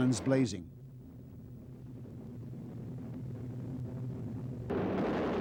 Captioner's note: humming, vibrations, gun shooting